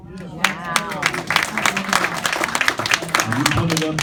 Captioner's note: applause, cheers